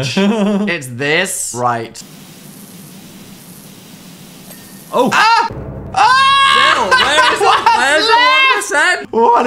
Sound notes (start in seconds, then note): 0.1 laughs; 2.0 liquid hissing; 4.5 notification dings